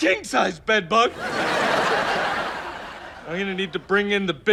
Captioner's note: laughs